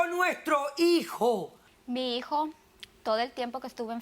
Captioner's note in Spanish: Hablan al unísono